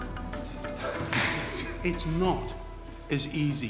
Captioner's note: chuckles; thumps